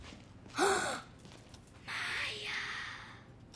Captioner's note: gasping